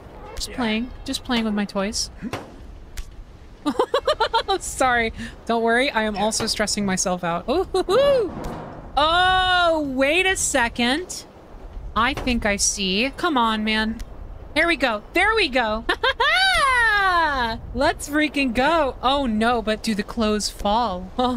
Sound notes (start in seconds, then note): 3.6 laughter